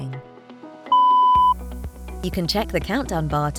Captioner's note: beep